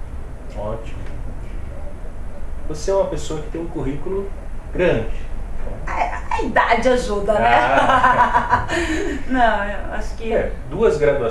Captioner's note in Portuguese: risos